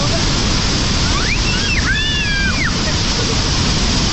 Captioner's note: kids are screaming